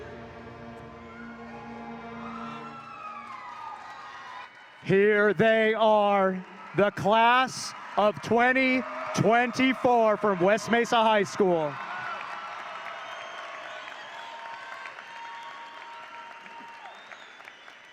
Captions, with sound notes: Here they are, the class of 2024 from West Mesa High School. (audience cheering) (hands clapping)